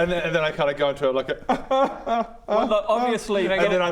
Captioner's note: obviously not fake sobbing